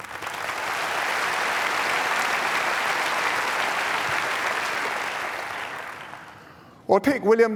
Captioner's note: applause